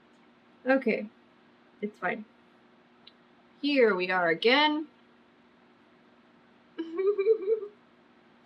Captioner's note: laughs